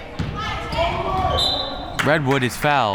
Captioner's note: whistle